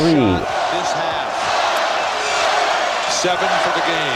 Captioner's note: cheering